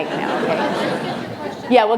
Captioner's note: laughter